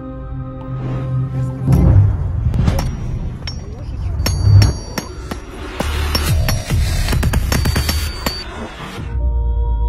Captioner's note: hammer knocking